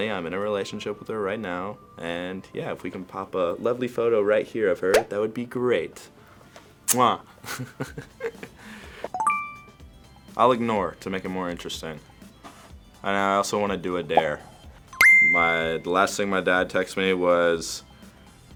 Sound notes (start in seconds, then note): 6.7 smooches; 7.4 laughing; 9.2 ding